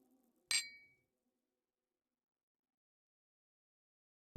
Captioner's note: glasses clinking